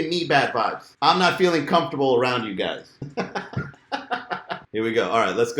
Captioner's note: laughing